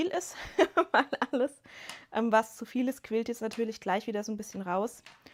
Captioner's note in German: gelächter